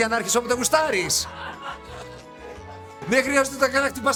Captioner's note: laughing